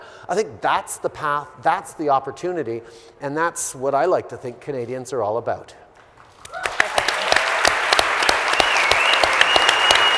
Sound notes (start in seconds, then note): 6.3 audience applauding